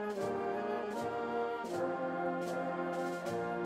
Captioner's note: none